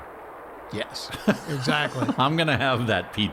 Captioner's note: laughing